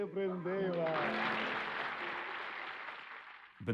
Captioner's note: applause